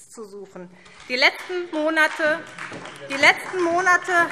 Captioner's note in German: Beifall SPD und DIE LINKE